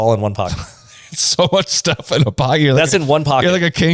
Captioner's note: laughs